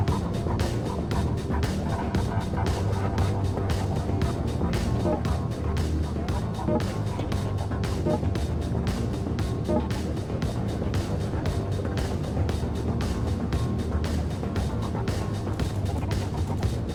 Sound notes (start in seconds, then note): 5.3 energetic music continues; 5.3 vehicle beeping